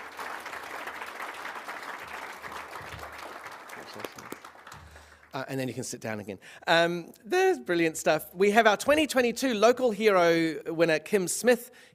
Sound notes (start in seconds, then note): 2.4 applause